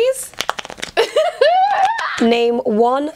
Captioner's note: laughter